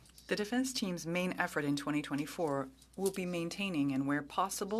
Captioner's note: speaking French